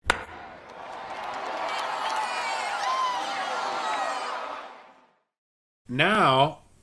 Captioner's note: sound of bat hitting ball; cheering